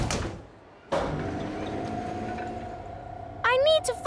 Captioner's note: lift moving